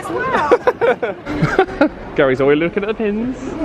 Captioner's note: laughs